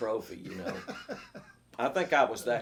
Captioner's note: laughs